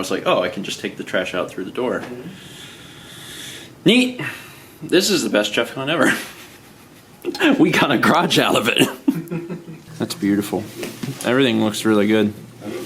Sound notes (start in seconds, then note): 6.0 laughs